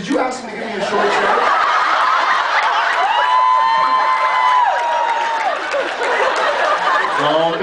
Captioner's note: audience laughs